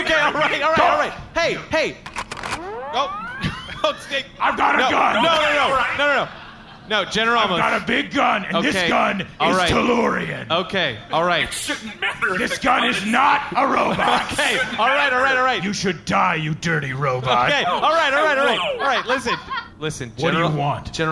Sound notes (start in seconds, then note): 2.0 gun charging up; 11.6 laughing